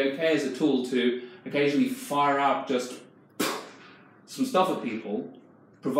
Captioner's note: puffs